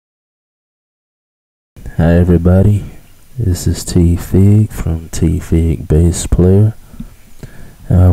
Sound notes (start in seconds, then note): 1.2 male Speaking